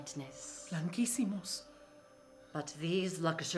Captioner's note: speaking in foreign language